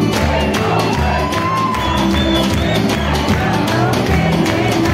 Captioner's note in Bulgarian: аплодисменти